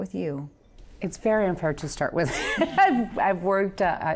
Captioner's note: laughs